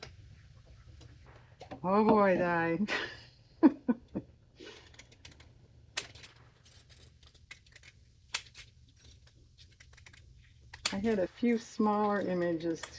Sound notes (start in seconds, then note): 7.1 laughs